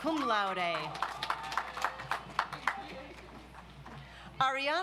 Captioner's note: audience applauds